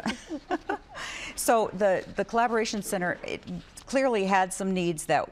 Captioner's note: laughter